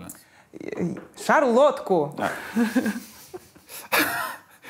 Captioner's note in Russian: смеётся; Дудь прыскает